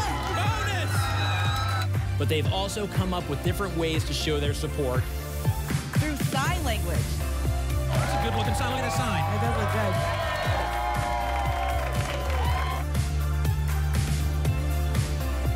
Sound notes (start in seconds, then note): 0.0 applause and cheering; 9.7 applause and cheering